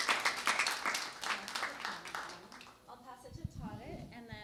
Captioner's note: applause